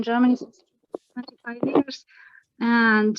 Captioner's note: distorted sound